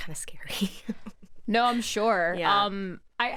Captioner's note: chuckles